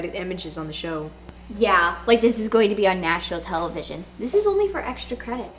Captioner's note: sarcastic